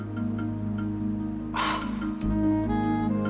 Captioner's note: sighs